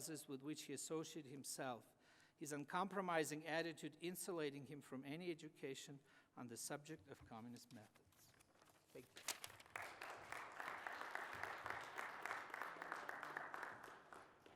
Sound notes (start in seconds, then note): 9.3 applause